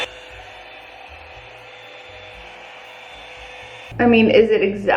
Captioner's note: hair dryer whirring